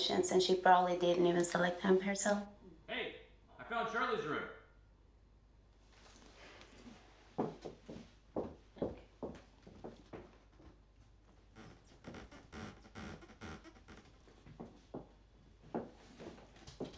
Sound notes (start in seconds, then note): 11.5 bedsprings squeaking